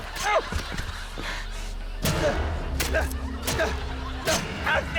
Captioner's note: grunts